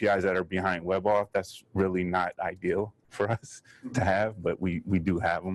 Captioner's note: chuckles